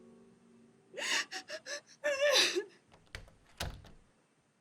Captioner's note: crying; door opening